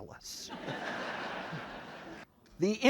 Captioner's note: crowd laughs